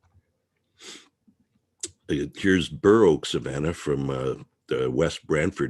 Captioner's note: mouse clicking; sniffles